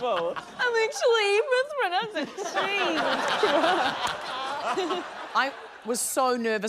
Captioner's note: laughter